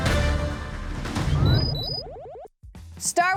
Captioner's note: exciting music; beeping